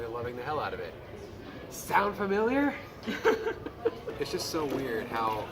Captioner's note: giggles